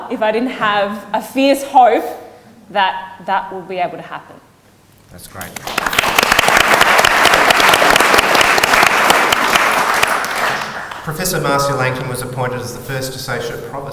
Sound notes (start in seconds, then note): 5.4 audience applauds